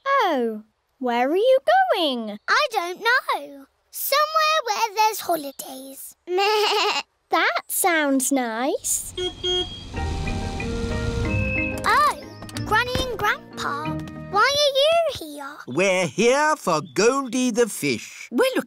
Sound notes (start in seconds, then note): 9.0 car horn beeps